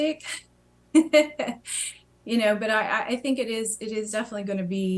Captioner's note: laughter